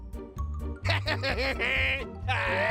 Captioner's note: laughing